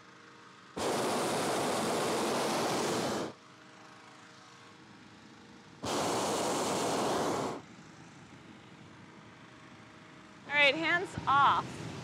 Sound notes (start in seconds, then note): 0.8 air blowing; 3.9 burner whirring; 5.8 air blowing